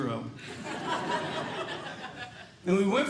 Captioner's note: audience Laughing